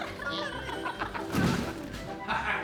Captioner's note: body falling on the ground; all laughing